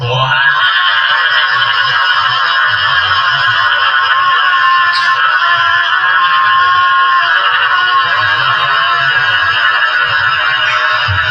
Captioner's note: wahhhhhhh!!!!